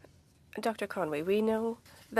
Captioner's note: speaking in French